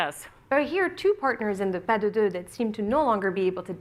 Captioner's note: french